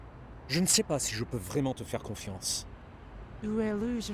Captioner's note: man speaking in foreign language; Michiko speaking in foreign language